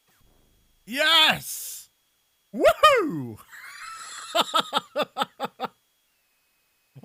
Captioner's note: laughs